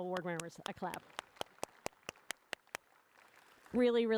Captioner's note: applause